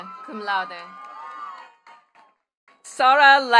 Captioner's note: attendees cheering and clapping